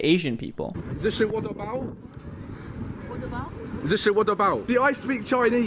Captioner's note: speaking mock Chinese